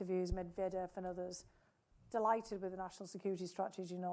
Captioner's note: speaking foreign language